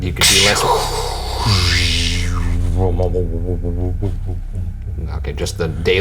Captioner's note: imitates laser sounds